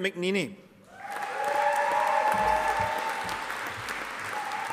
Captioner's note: audience applauding